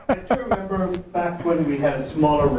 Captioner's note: laughs; voiceover